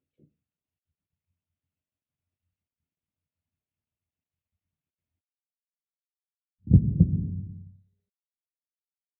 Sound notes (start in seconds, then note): 6.6 ♥Heartbeat.♥